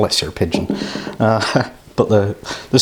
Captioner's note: laughs